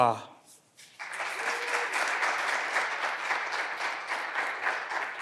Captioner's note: clapping continues